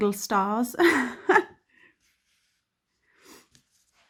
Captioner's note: chuckles